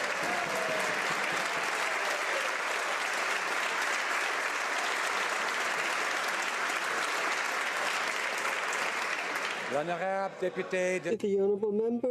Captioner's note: some Applause